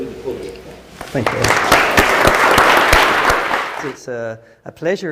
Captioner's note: applause